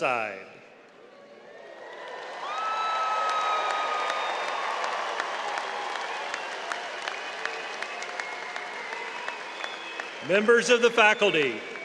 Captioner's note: applause